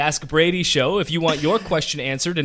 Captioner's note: laughs